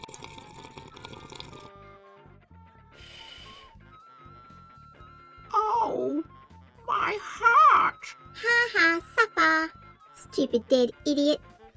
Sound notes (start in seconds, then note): 0.0 continuous slurping sound; 2.7 blowing sound